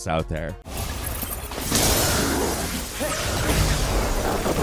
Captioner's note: energy blasts